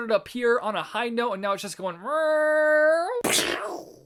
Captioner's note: crash noise